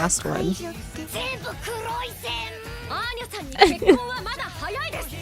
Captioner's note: foreign language; chuckles